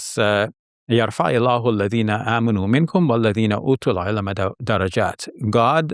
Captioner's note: speaks foreign language